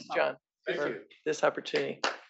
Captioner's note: applause